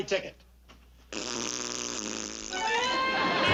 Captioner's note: raspberry sound from kids outside